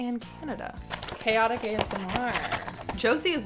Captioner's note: rustles box